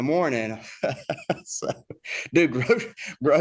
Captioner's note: laughs